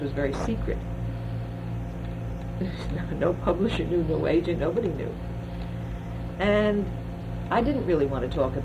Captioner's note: laughs